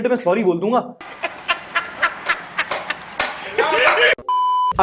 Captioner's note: laugh; beep